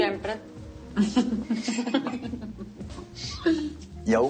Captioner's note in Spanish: Risas